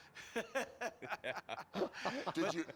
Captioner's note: laughing